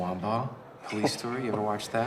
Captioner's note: Ed chuckles